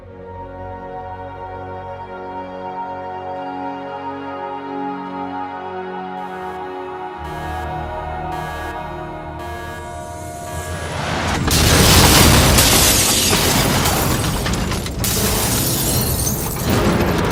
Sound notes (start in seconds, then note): 0.7 melancholic music; 7.0 sat nav alarm; 15.1 glass shattering